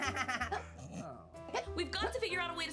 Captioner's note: Annoying Orange hiccups; Annoying Orange laughs